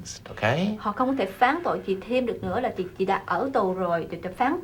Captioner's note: speaking vietnamese